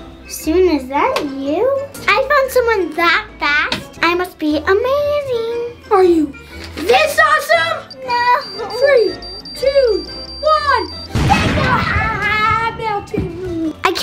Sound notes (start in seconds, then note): 11.1 bomb explodes